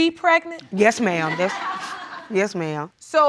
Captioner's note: audience laughs